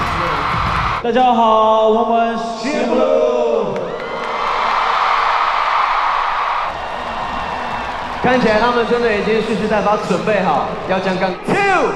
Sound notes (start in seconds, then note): 3.4 the crowd welcomes them with loud cheers